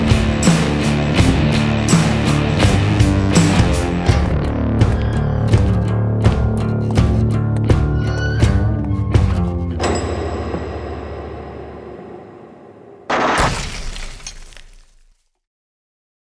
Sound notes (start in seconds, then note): 10.3 door locking; 13.0 gunshots